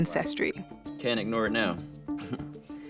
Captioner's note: chuckles